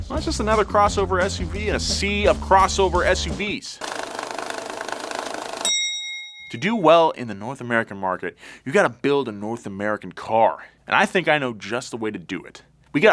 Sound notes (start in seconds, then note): 3.9 transition whirring; 4.8 bell dings